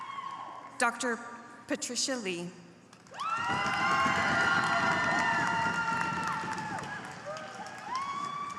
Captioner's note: applause